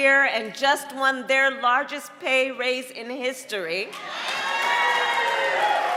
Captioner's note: applause